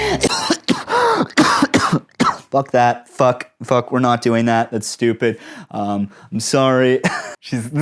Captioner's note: coughing